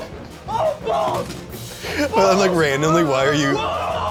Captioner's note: screaming balls